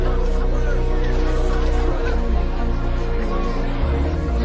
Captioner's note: somber music; students talking